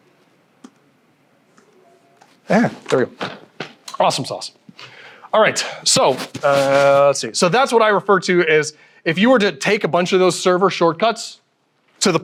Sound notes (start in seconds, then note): none